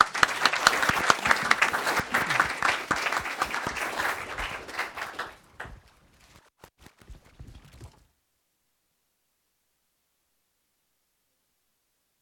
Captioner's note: applause